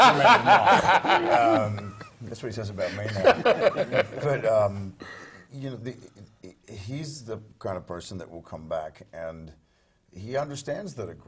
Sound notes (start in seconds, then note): 0.0 laugh